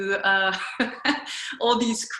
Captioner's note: laughs